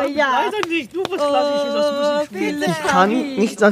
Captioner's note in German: Stimmengewirr